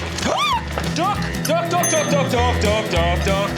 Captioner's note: gasps